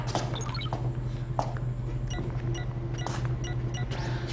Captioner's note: dialing